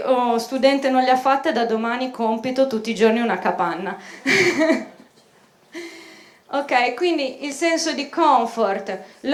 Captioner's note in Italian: risata